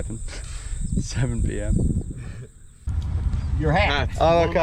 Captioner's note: chuckles